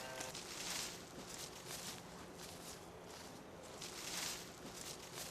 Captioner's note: leaves crunching as Jack walks away